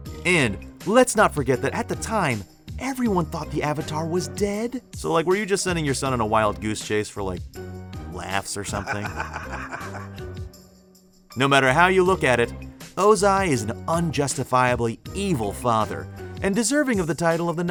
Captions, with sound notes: And let's not forget that at the time, everyone thought the Avatar was dead. So, like, were you just sending your son on a wild goose chase for, like, laughs or something? [laughing] No matter how you look at it, Ozai is an unjustifiably evil father. And deserving of the title